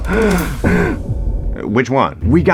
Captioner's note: ISFJ gasps; ENFJ gasps